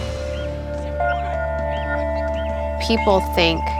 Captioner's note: birds chirping